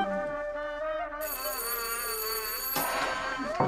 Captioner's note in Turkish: Kapı zili sesi